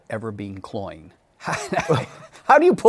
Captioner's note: laughs